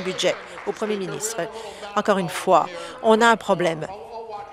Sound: applause

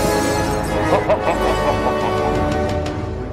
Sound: laugh

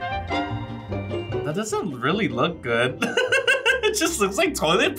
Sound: laughs

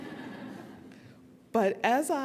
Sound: audience laughing

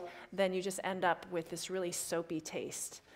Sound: none

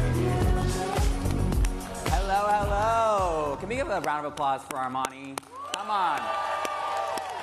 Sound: applause

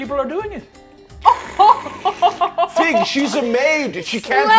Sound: laughing

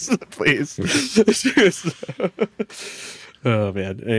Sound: laughs

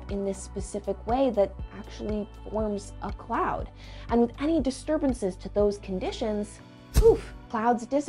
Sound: poof

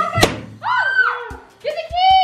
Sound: screaming

